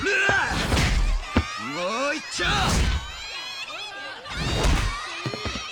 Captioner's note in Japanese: 叫び声